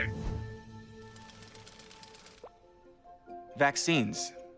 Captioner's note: bright music; gears whirring